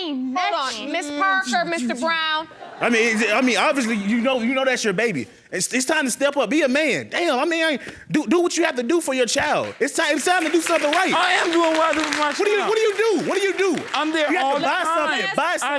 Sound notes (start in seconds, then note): 2.4 audience laughing; 9.3 audience clapping